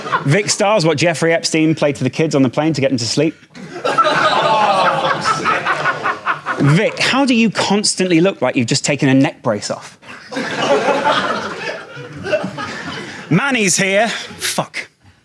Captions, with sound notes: Vikkstar's what Jeffrey Epstein played to the kids on the plane to get them to sleep. (audience laughing) Vic, how do you constantly look like you've just taken a neck brace off? (audience laughing) Manny's here, fuck.